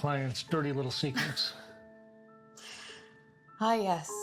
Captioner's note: Sheila laughs